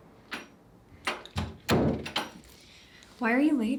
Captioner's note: door shuts